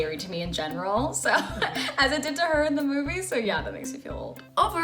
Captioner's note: laughs